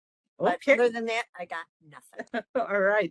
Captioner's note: laughing